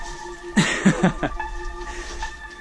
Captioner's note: laughing